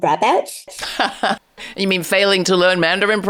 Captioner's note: laughs